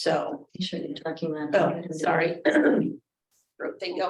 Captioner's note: clears throat